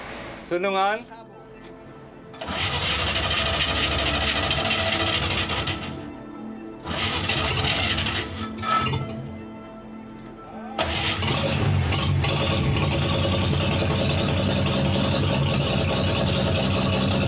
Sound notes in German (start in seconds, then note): 2.4 Motorenrattern; 6.5 Wiederholtes Motorenrattern; 10.8 Motor startet